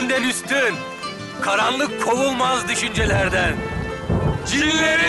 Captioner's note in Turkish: Gök gürleme sesi